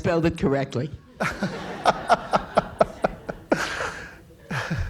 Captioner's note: laughing